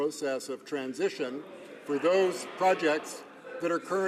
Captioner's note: some Applause